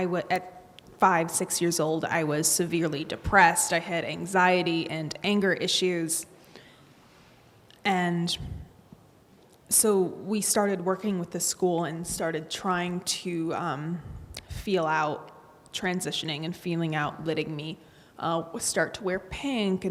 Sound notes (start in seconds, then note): none